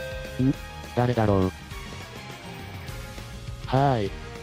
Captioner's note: doorbell